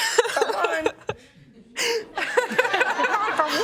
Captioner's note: laughter